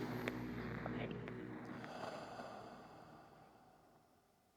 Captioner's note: exhales